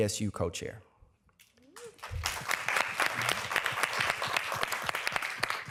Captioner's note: applause